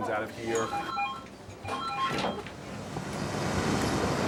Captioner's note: telephone rings; heavy machinery